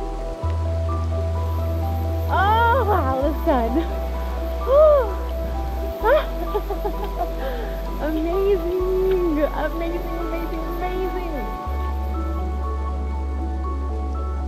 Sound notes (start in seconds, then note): 6.0 laughs joyfully